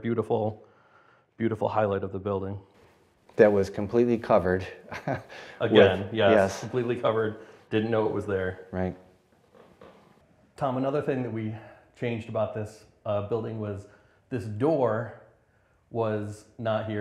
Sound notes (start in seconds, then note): 4.8 laugh